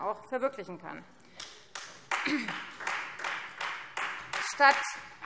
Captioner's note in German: Beifall Freie Demokraten